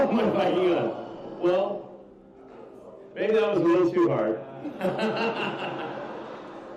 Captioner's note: laughs